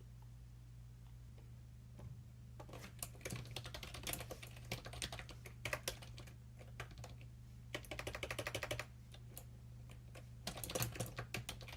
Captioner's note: typing